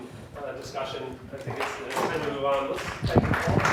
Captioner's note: applauds